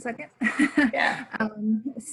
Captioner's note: laughing